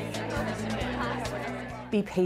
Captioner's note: lively conversation